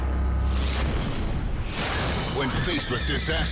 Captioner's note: squashing sound